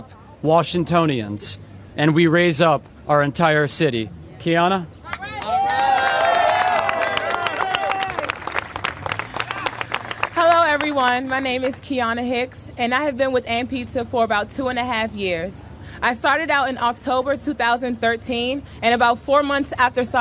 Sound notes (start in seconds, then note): 8.5 applause